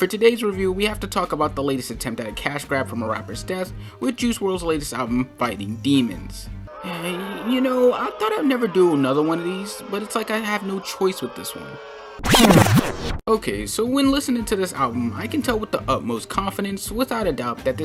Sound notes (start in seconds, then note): 6.7 sigh